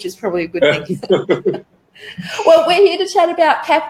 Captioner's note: laughing